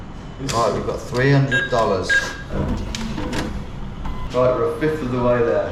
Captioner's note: ATM beeps